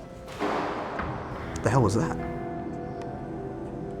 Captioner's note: banging